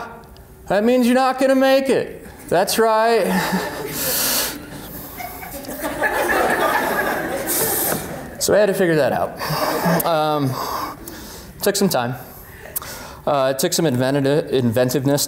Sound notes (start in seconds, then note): 4.6 laughter